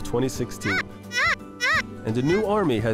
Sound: squeaking

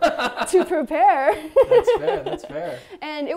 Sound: laughs

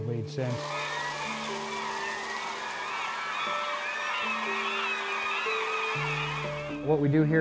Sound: birds squawking

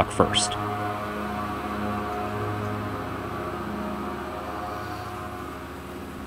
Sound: machining Noises

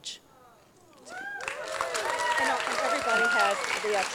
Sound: crowd applauds

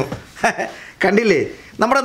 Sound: laughs

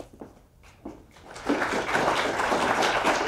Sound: applause

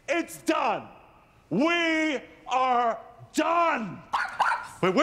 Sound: exclaims; barking

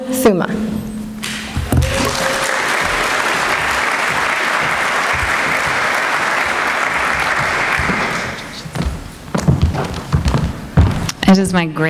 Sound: applause

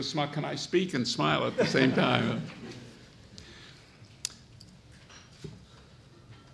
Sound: audience laughs

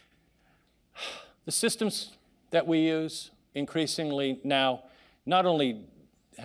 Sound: sighing

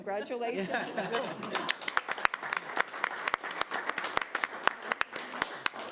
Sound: audience applauding

